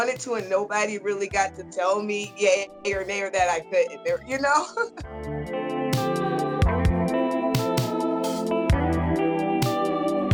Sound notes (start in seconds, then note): 4.5 laughs; 6.2 soulful music